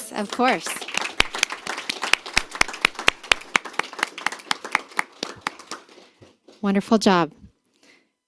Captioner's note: applause